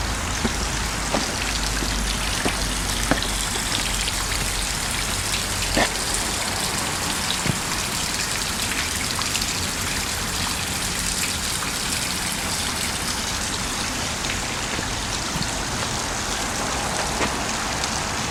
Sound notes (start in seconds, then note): 2.5 loud Water Splashing